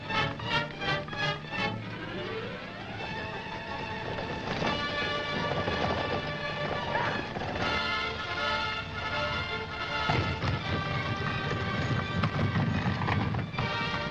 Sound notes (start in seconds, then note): 7.0 hooves galloping